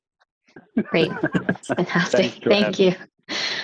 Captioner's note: laughs